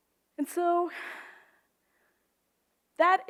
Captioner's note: sighs